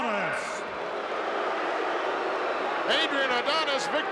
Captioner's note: crowd boos